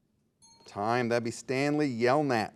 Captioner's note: soft ping